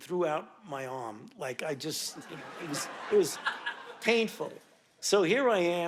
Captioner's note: audience laughing